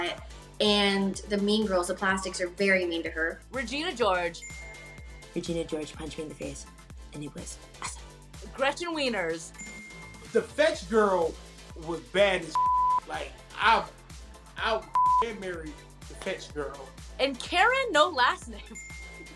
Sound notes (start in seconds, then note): 12.5 beep; 18.6 laughs